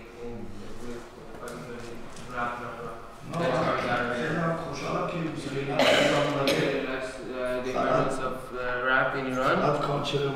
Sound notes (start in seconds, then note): 4.3 speaking in farsi; 10.0 speaking in farsi